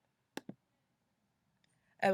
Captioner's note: clicking box- 'I agree'